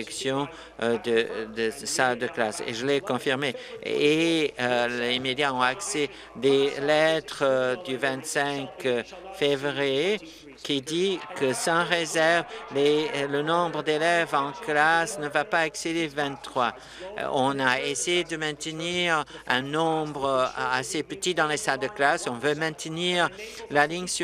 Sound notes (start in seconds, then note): none